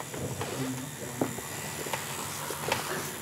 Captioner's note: machine whirrs